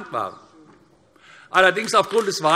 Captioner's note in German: Beifall AfD